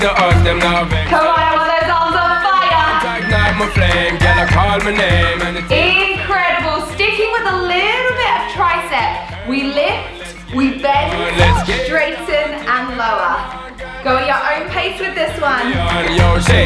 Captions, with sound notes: Come on, I want those arms on fire. (timer beeping) Incredible. Sticking with a little bit of tricep, we lift, we bend, straighten and lower. Go your own pace with this one.